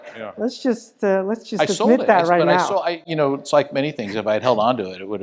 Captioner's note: laugh